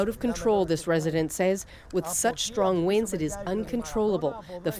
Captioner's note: speaking alternate language